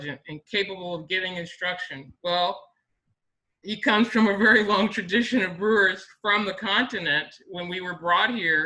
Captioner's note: laughs